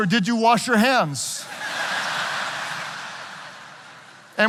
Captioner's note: audience laughing